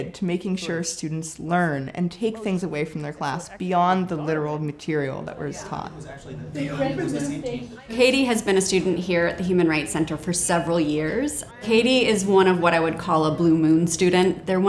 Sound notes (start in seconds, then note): 6.4 students discussing